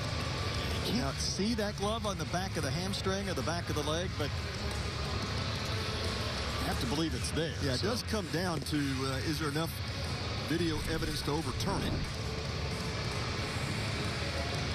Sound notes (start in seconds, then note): none